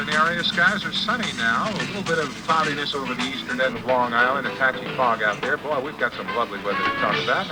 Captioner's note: radio newscast of morning weather